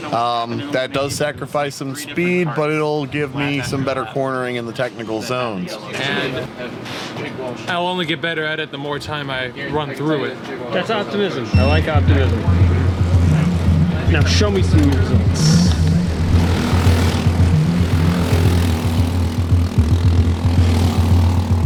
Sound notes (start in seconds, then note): 16.0 engines revving